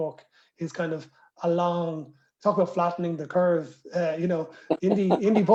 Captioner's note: laughter